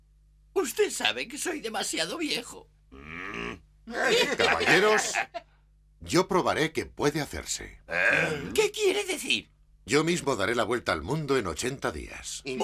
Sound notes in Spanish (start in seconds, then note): 3.8 ríen